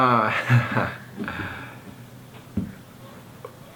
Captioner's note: laughing